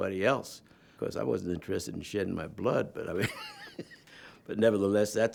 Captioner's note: chuckles